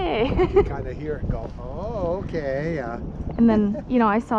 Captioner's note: laughs; laughs